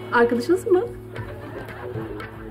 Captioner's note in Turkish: Gülme efekti